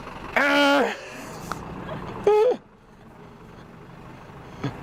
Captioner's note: makes honking sound